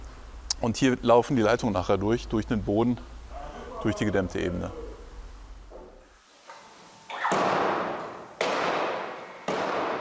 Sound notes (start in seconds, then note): 7.2 loud hammering